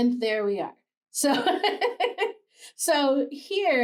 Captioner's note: laughs